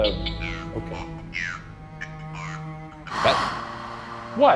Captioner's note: Ovalis blaring